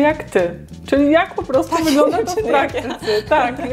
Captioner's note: laughs